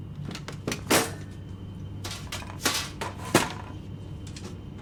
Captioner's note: closet clattering